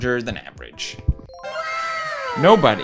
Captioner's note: cheer sound effect